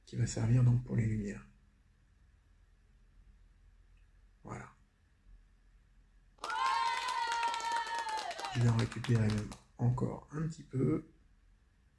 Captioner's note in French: Applaudissements